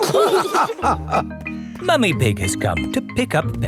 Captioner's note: all laughing